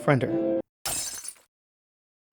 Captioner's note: glass shatters